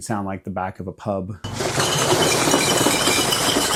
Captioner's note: smashing glass